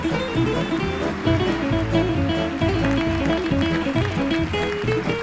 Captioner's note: audience applauding